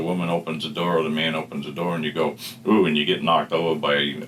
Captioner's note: sniff